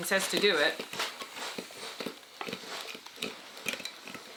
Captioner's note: steam sizzles